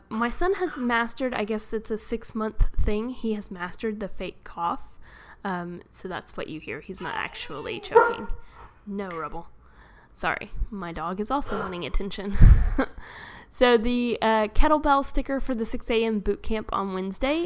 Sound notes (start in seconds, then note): 7.9 dog barks